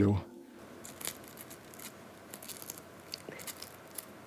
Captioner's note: paper rustling